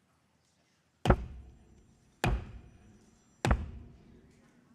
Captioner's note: cane thumps echoing